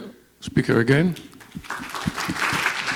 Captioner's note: clapping